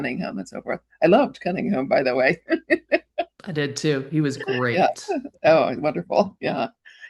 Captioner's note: chuckles